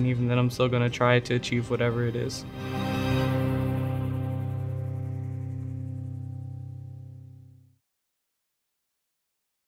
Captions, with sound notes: And even then I'm still gonna try to achieve whatever it is. (logo swooshing)